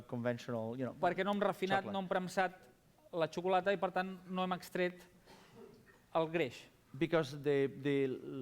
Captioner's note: non-english speech